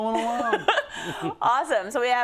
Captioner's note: laugh